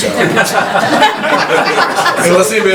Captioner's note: laughing